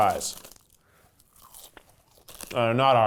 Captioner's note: crunching